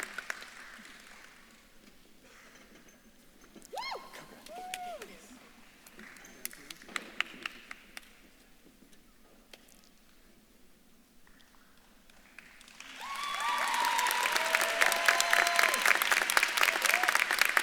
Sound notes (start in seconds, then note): 9.5 speaks faintly; 12.2 audience claps and cheers